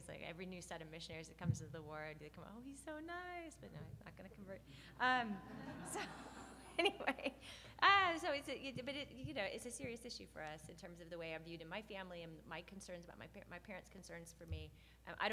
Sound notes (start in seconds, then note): 5.4 laughs